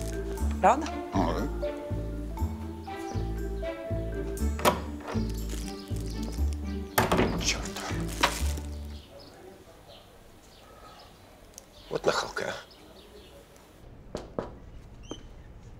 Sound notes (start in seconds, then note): 13.8 knocks on door